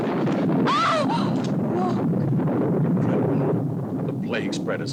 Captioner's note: thunder rumbles; Corinne gasps